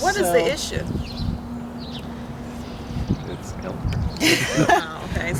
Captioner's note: stressed laughter